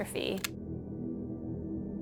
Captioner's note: somber music; camera clicks